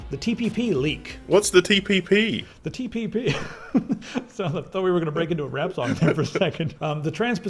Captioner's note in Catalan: riures